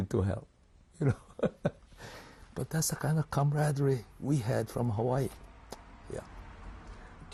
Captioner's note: laughs